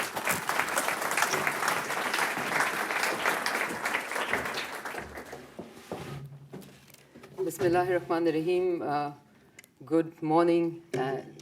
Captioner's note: applause; in Arabic